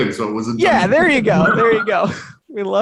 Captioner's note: chuckles